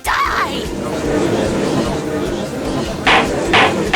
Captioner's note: gallery chattering